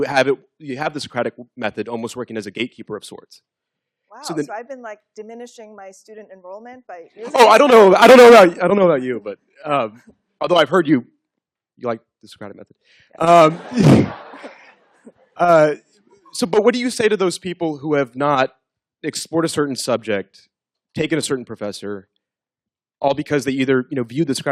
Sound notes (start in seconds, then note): 13.2 laughter